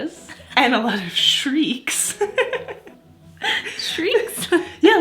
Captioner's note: laughs